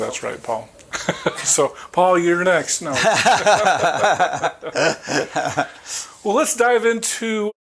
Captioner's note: chucklng